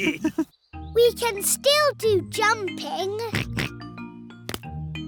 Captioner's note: all laughing; oinks